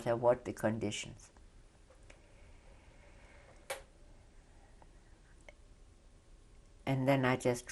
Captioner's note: pauses for 6 seconds